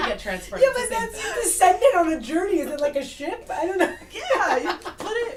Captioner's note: laughts